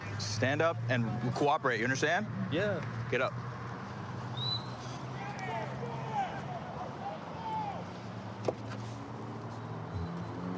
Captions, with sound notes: Stand up and cooperate. You understand? Yeah. Get up. [whistle] [indistinct shouting] [vehicles driving]